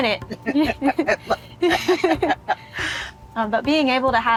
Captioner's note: both laughing